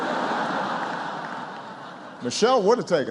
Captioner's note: laughter